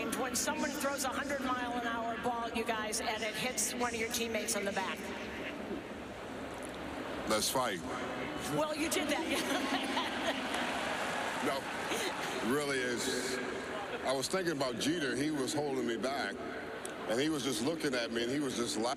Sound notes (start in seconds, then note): 11.8 laughter